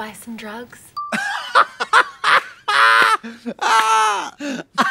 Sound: blonde women hee-haw

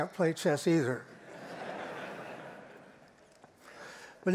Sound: laughter

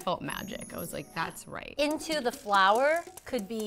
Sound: shimmer sound

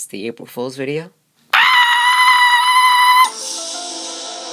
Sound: girly screaming

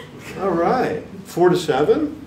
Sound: audience chuckling

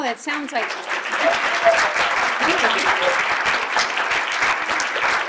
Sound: audience applauding

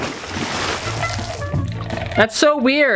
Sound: splashing

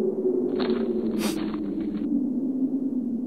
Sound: sniffs

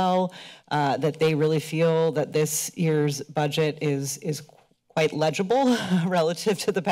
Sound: chuckles

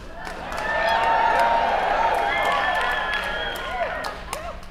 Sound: cheers

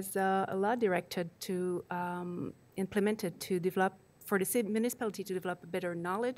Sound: speaking foreign language

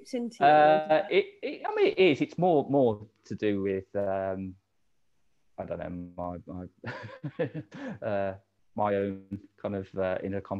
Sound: laughing

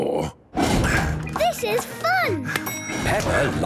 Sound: panting

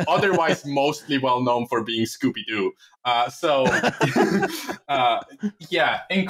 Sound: laughter; laughter

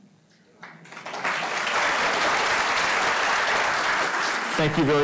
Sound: audience applauding; speaking over applause

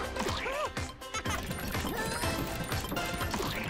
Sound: laughing

